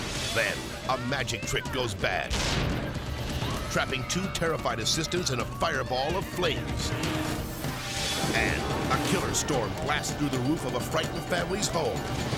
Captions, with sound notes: Then a magic trick goes bad, (trick exploding) trapping two terrified assistance and a fireball of flames. And a killer storm blasts through the roof of a frightened family's home.